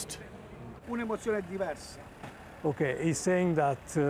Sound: speaking Italian

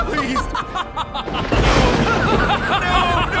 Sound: lightning

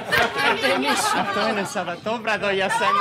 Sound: non-english speech; laughter

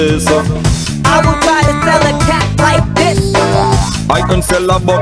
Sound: beeps

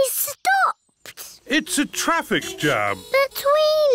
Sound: horns toot

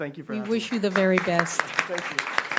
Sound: clapping

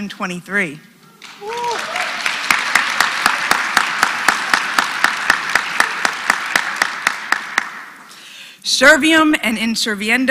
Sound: applause

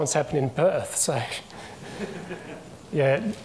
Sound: people chuckle

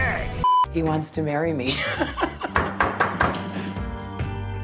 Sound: excited laughter

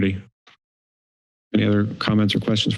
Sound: silence

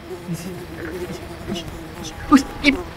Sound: buzzing

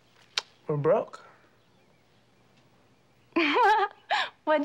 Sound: laughs

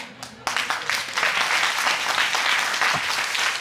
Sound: audience applauding

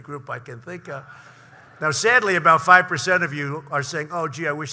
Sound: laughter

